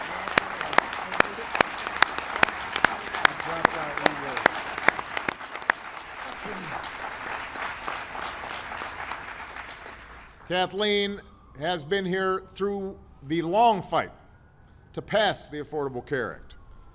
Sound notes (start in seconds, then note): 1.7 applause